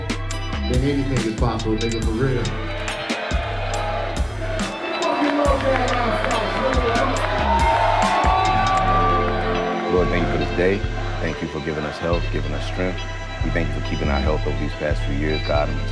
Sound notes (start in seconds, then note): 2.6 audience cheering; 8.2 audience cheering